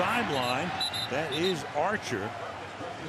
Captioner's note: whistle